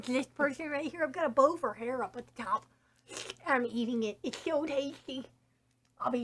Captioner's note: slurping noise